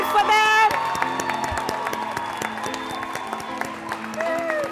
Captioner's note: applause